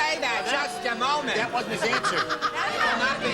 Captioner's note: audience booing